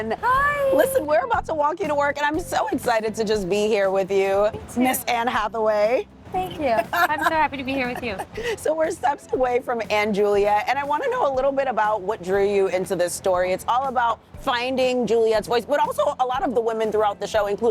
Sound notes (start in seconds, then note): 6.5 laughs